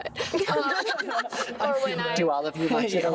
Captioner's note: group laughing